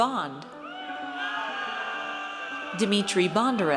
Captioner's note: audience cheers